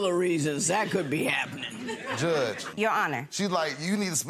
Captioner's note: audience giggles